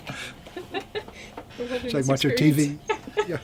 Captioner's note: BOTH laugh